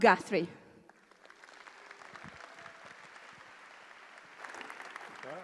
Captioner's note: applause